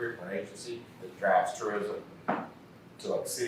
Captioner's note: faintly speaking